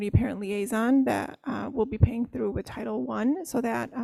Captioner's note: none